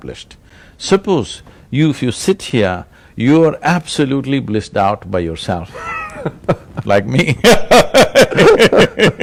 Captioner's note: laughter